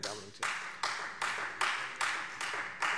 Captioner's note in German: Beifall Freie Demokraten